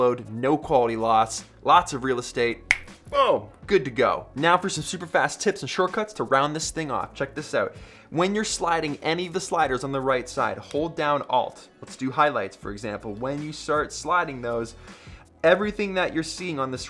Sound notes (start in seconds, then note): 2.6 snaps fingers